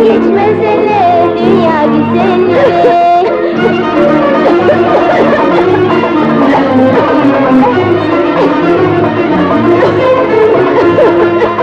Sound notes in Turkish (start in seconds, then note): 2.9 Öksürükler